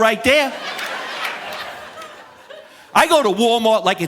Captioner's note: audience laughing